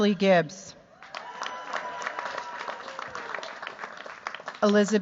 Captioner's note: cheers, applause